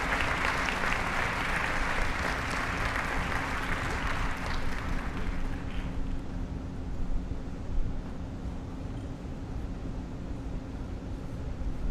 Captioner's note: applause